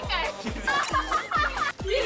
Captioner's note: laughing